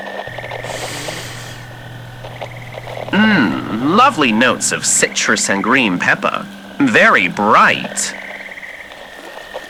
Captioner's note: inhalation